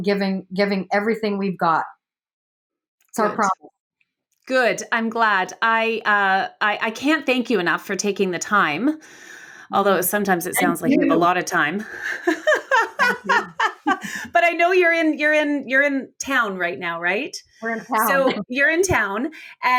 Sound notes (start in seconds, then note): 11.8 laughs